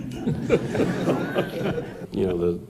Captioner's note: laughter